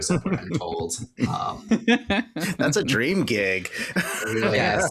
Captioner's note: laughter